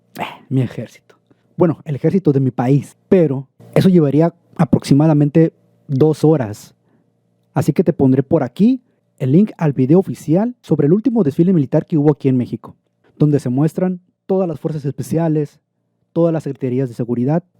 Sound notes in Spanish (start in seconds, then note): 1.3 risa